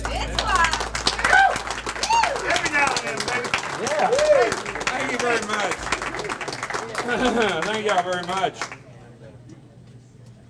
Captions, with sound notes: (audience applauds) - Every now and then, baby. (cheering) - Thank you very much. Thank y'all very much.